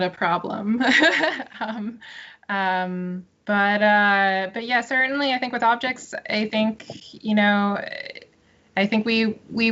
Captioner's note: laughs